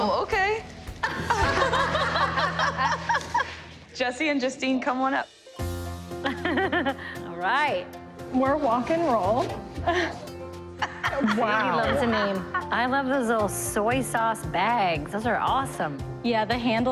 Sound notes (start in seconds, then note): 1.0 laughter; 4.6 laughs; 10.8 laughs